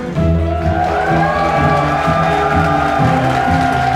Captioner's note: cheering